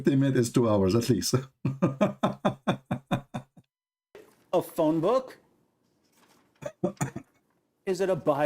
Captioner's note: Ketawa